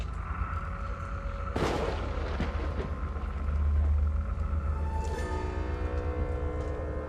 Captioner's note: pensive music; thunder rumbling